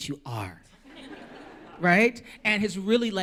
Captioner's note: laughter